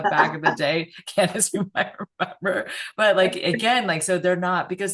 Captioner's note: both laugh